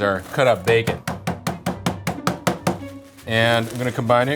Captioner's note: roller banging